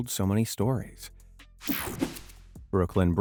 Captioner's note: image whipping effect